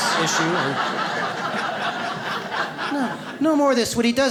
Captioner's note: audience laughs